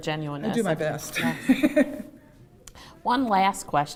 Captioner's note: laughter